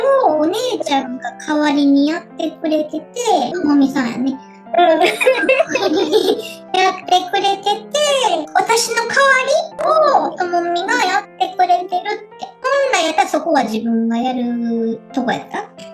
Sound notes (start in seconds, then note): 4.9 laughs